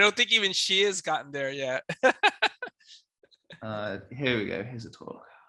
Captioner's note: laughs